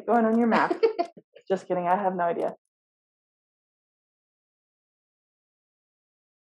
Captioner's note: laughs